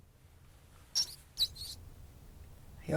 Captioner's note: rat squeaks